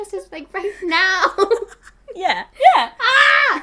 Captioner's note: both laughing